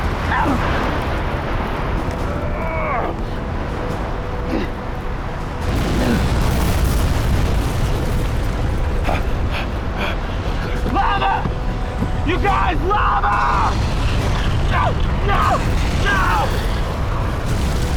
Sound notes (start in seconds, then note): 0.1 grunts/Groans; 9.2 heavily Breathing; 16.0 screaming